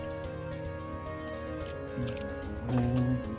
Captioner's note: humming along, typing; typing